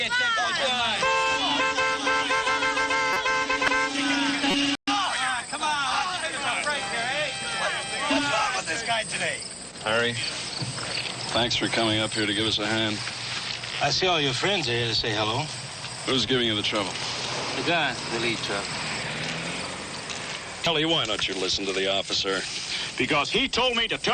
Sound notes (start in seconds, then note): 0.0 all yelling, horns honking; 3.8 horns honking; 3.8 people yelling; 5.6 yelling, horns continue